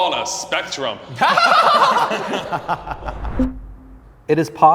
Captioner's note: comics laughing